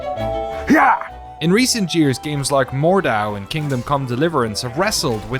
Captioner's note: speaking normally